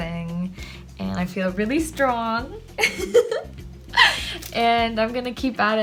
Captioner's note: chuckles